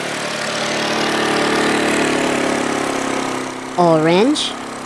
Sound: ATV motor

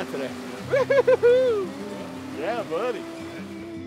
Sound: fisherman cheers

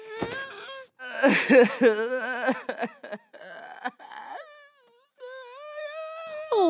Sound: sobbing

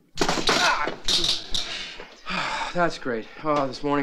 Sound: electricity popping

